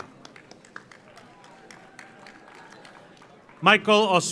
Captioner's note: audience applauds